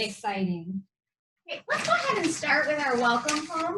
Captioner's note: paper shuffling